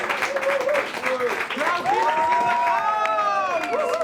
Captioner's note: applause and cheers